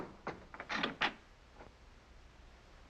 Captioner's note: windows click